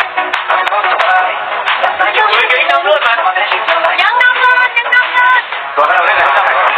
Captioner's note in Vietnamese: Vỗ tay